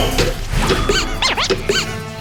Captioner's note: A quick boop